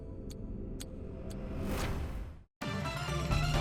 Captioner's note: timer ticking; upbeat music